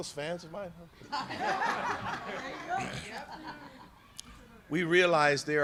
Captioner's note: laughter